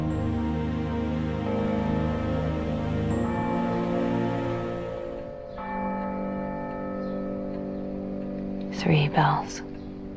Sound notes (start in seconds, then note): 0.0 three bells toll from far away; 8.9 voiceover